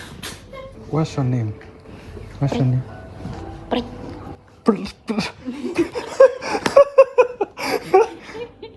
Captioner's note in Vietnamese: tiếng cười